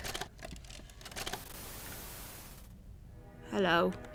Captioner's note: static then music